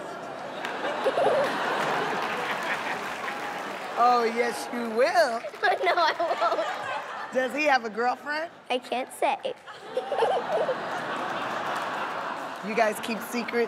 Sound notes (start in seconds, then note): 2.4 audience "Ohh"s; 5.4 giggles; 5.7 applause; 9.6 laughing